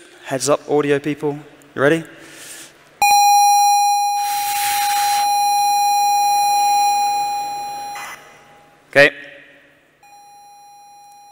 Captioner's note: single electronic tone